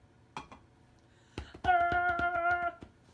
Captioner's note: tarzan yelling